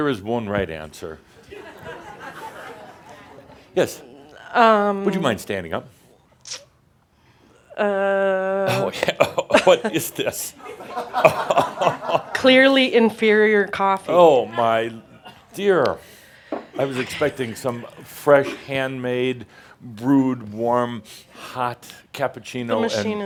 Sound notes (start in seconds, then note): 1.4 some laughter; 8.6 laughter; 8.7 sips his coffee and starts coughing